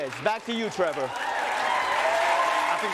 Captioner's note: cheering